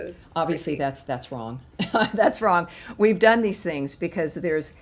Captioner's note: laughter